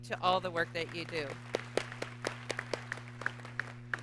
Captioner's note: applause